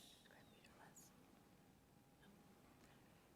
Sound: whispering

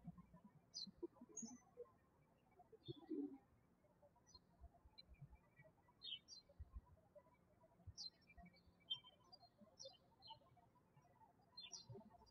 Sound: birds chirping

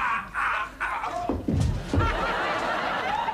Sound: laughter

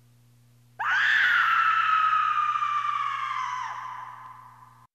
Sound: bride screams

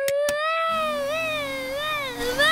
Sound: vacuum cleaner whirring

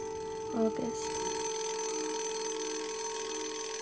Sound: ringing continues

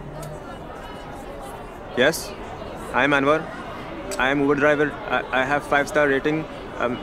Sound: Pakistani accent

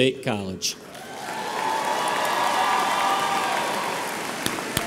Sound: audience applauds

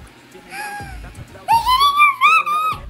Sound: gasp

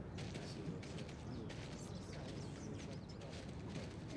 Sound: birds chirping

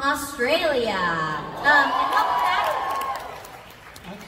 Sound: audience cheers

